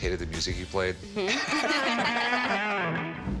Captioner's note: both laugh